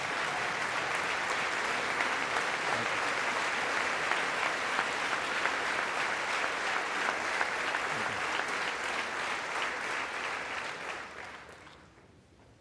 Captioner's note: applause